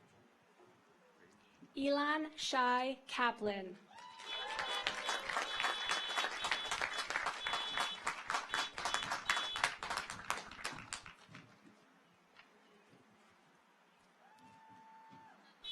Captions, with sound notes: Elan Shy Kaplan. (audience applauds) (car horns honking)